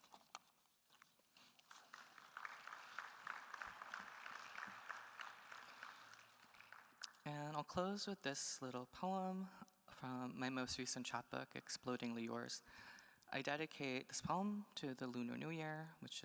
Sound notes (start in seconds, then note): 1.7 attendees applauding